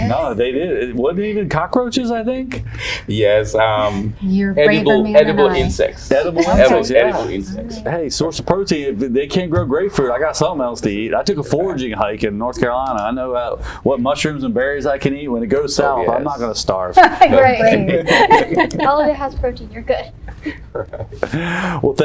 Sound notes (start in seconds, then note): 17.6 laughs